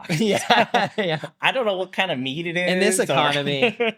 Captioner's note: laughs